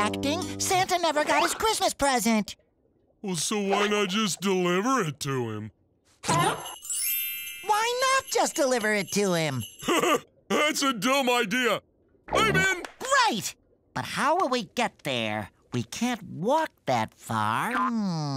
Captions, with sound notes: Santa never got his Christmas present. Well, so why not just deliver it to him? [Christmas bells ringing] Why not just deliver it to him? [laughing] That's a dumb idea. -I'm in! -Great! But how will we get there? We can't walk that far. Hm...